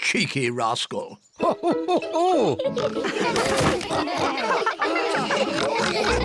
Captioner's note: all laughing